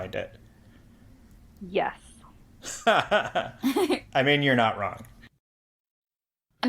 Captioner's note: laugh